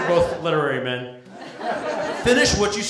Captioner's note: laughter